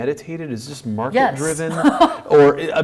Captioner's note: laughs